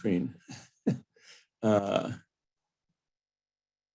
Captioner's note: laughs